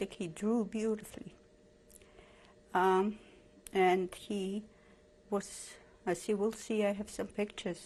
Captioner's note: pauses for 3 seconds